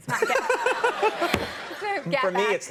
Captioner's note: audience laughing; Conan laughing